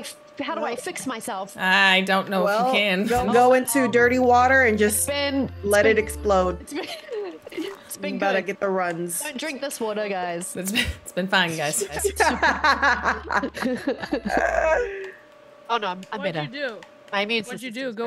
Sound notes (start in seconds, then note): 11.8 laugh